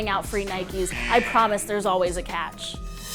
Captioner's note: buzzer